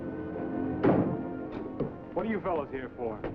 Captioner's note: car door slams